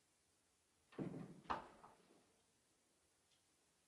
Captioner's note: door closes